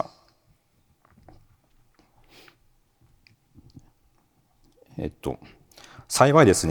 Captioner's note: silence